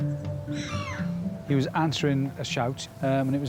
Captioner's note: seagulls squawking